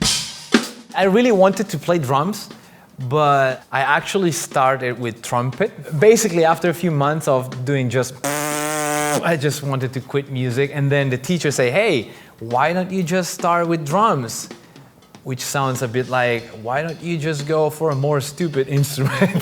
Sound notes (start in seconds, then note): 8.2 pfffff; 19.0 laughs